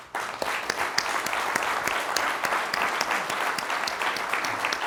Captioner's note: crowd applauds